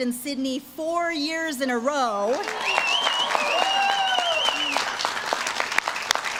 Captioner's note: audience claps and cheers